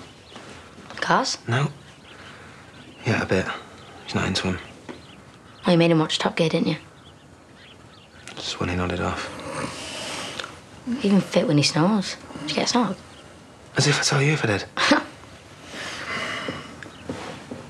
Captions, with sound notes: Cars? No! Yeah, a bit. He's not into them. Oh, you made him watch Top Gear, didn't you? That's when he nodded off. (slight snore) He's even fit when he snores. Did you get a snog? As if I'd tell you if I did. (chuckle)